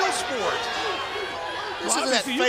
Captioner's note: crowd chatter